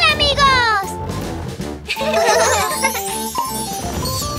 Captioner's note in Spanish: Risas